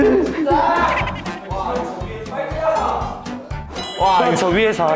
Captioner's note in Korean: ㅋㅋ